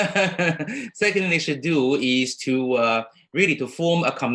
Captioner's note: laughs